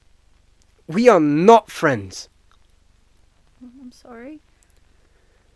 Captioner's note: none